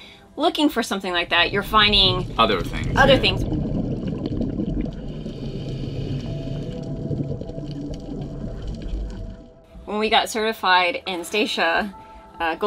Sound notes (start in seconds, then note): 3.4 scuba bubbles